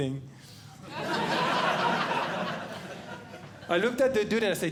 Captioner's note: audience Laughing